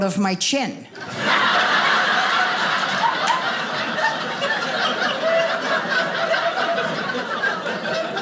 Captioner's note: audience laughing